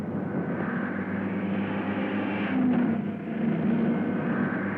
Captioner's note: cars revving